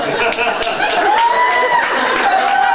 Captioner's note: laughs; laughs, cheers